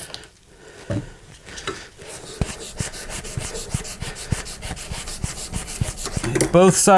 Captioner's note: sanding